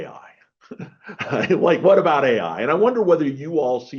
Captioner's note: chuckles